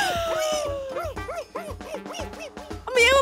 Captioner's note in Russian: истерический смех; энергичное пищание